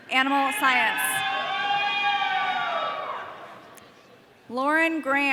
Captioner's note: audience cheering